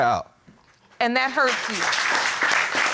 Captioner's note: audience applauding